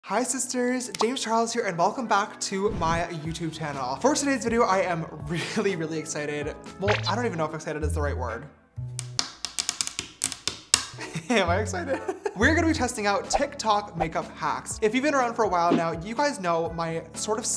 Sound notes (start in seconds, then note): 9.0 tapping; 11.9 laughs